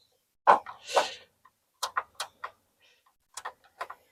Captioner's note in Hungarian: horkantás